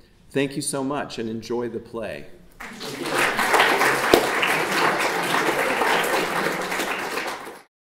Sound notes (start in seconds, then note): 2.6 audience applauding